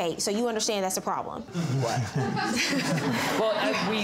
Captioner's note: audience laughing